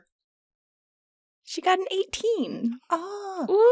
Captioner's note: audibly smiling